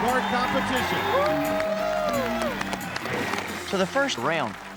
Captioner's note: crowd cheering